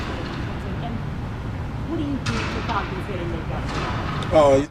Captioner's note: construction in background blocking sound